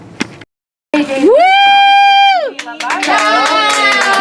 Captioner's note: cheering